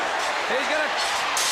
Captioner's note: crowd cheering